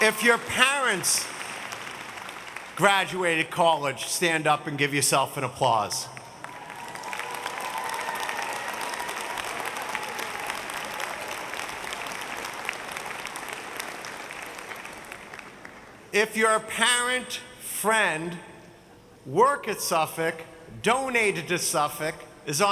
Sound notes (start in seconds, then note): 6.4 audience cheering